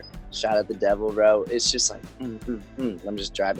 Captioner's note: humming